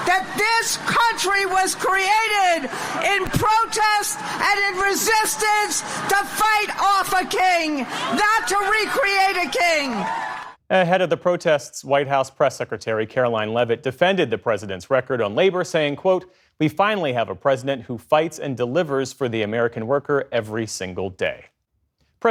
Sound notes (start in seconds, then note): 10.0 cheering